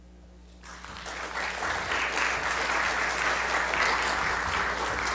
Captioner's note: audience applause